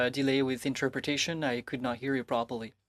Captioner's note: speaking French